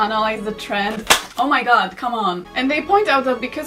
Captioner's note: slaps bug